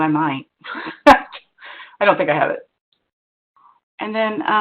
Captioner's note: laughs